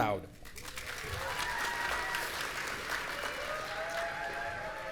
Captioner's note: audience cheering